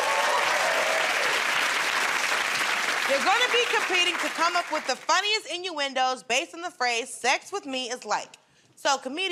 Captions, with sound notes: [ Cheers and applause ] They're gonna be competing to come up with the funniest innuendos based on the phrase "Sex with me is like..."